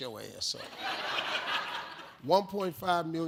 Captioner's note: audience laughs